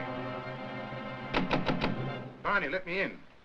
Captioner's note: knocking on door